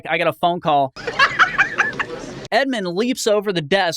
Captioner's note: laugh